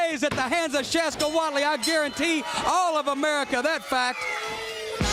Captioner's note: bell ringing